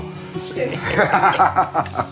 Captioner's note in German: Sie lachen